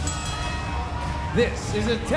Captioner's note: bell ringing